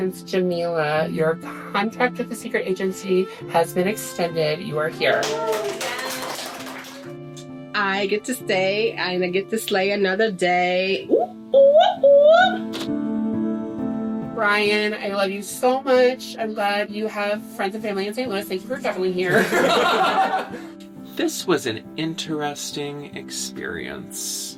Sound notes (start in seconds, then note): 5.0 clapping; 11.0 celebratory sounds; 19.3 laughs